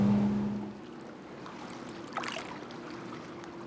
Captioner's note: water splashing